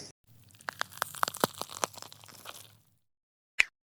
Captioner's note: the sound of wood burning in the kitchen